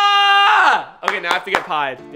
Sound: clapping

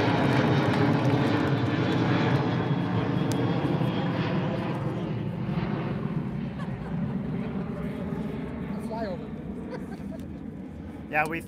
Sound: applauds; airplane engine

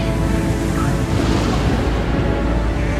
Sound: thunder rumbling

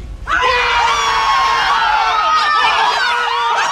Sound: group screaming

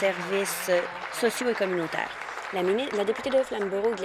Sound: applause

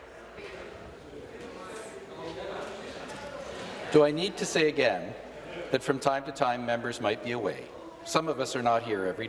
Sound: some applause

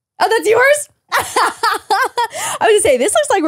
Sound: laughs

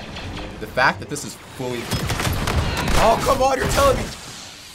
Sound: explosions

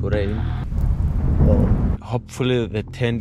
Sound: thunder

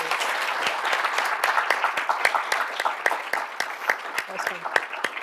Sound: applause

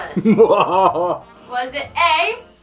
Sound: Grinch laughs evilly

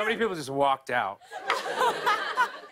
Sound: laughter

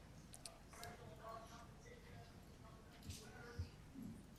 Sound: group chatter

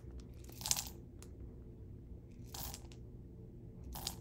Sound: beans rattle

